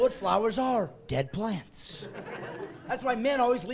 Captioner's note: laughing